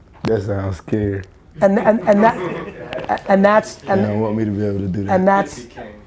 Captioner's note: all laughing